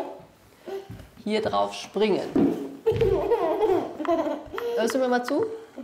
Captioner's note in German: lacht